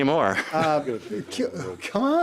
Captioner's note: laughing